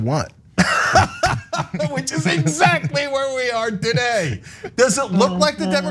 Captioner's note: laugh